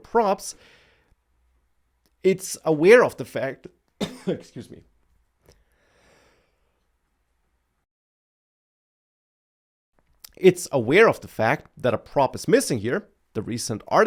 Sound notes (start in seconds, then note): 4.0 coughs